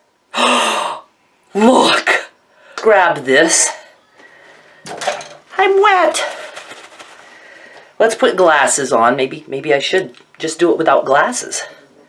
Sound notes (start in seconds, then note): 0.3 gasps; 4.8 knives clattering